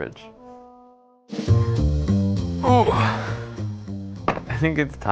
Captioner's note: upbeat jazz music; pained grunting